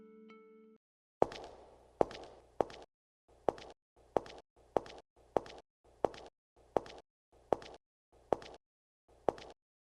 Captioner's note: sound of shoes